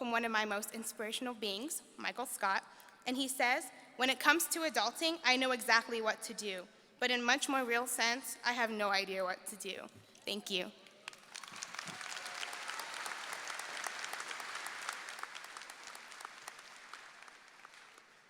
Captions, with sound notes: from my most inspirational beings, Michael Scott. And he says, "When it comes to adulting, I know exactly what to do. "But in much more real sense, I have no idea what do to." Thank you. (audience clapping)